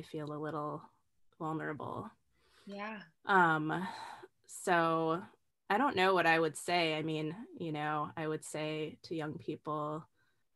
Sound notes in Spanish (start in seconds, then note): 8.4 respiro profundo